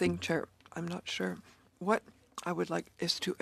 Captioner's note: speaking French